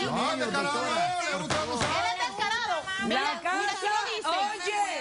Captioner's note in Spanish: Hablan al unísono